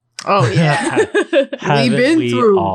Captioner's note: laughing